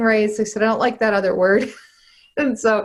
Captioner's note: laughs